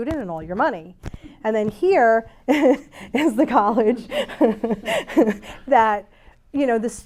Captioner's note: laughs